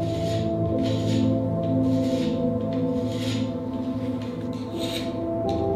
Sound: scraping of a file on metal; gentle, atmospheric notes

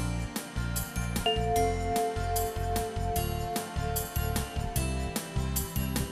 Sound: bell chimes

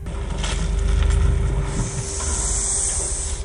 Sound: sharp intake of breath

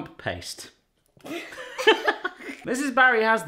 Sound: everyone laughing

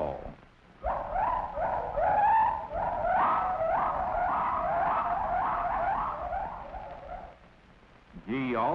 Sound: gibbons whooping

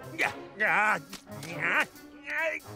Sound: grunting

